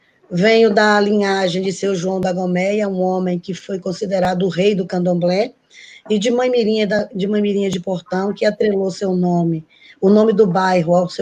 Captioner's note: speaking Portuguese